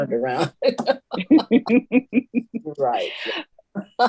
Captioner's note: laughing